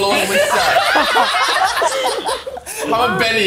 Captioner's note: laughs in agreement